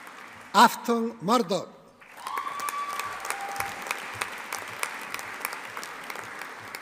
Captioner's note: audience applauding